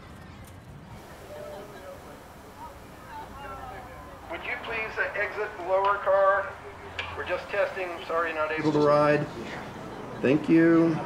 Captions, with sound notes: (announcer through speakers) Would you please exit the lower car? We're just testing. Sorry you're not able to ride. Thank you.